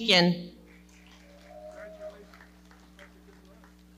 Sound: audience clapping

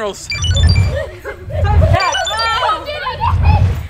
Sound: laughing

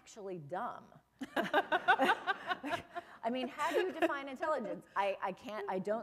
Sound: laughter

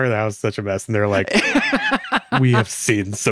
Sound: laughs

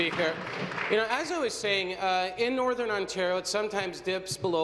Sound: applause

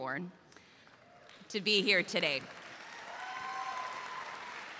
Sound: crowd applauding

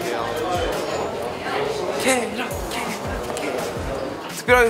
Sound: are cheering too

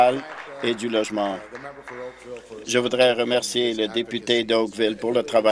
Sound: applause

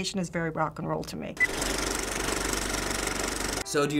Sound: movie reel clicks

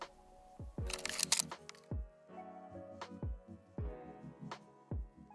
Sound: shutter clicking

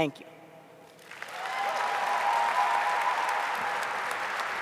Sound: audience applauding

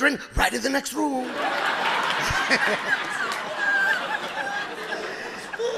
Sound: audience laughing

